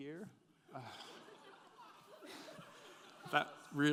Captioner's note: audience giggling